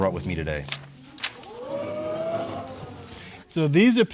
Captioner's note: audience exclaiming